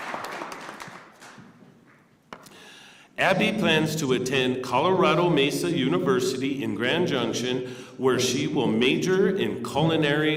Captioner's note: applause; cheers and applause